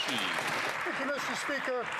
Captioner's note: applause